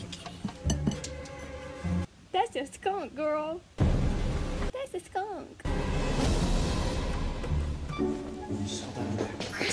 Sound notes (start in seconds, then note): 2.2 high pitched